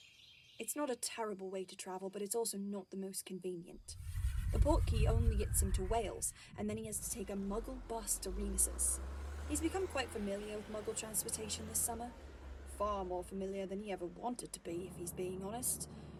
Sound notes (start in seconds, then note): 8.5 car driving